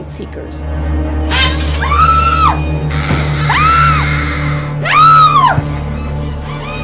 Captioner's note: screams